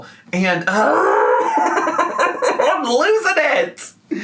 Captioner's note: groaning and laughing